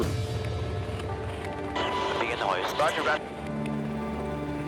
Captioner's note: radio chatter